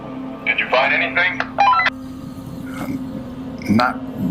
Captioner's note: comm beeping